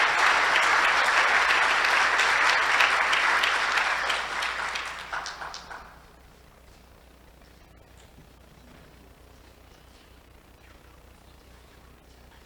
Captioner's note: applause